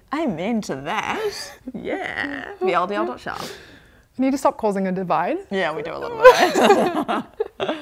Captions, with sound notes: amen to that! Yeah! VLDL.shop You need to stop causing a divide? Yeah we do a little bit aye? *remorseless giggles*